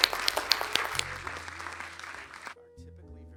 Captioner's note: applause